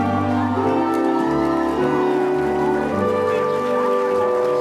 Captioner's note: applause